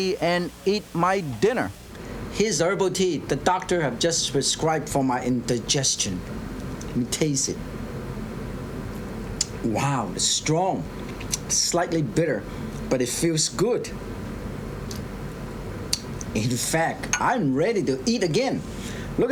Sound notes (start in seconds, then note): 8.1 sipping tea